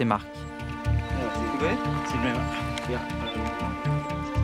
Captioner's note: Spanish language